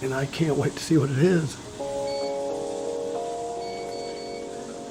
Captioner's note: beeping